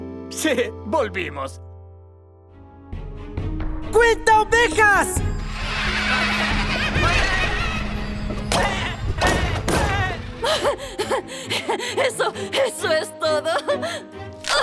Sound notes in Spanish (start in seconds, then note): 5.4 Grito de baa-talla; 10.2 Mera jadeando; 14.4 Sonido de crujido